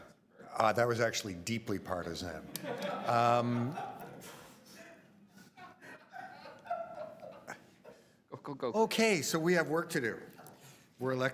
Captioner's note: laughter